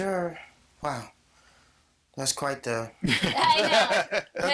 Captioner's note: all laughing